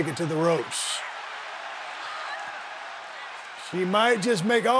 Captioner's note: audience cheering